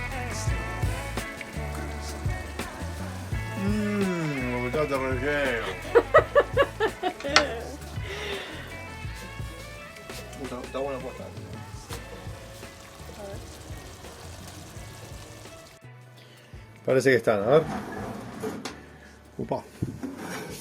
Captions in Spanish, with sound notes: Mmm lo que está este relleno! [Risas] Está bueno, posta. Parece que están, a ver... Opa!